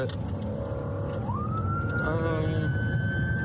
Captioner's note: siren wailing